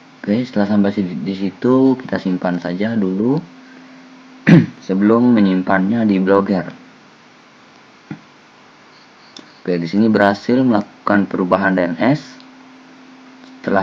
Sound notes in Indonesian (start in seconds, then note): 4.4 berdehem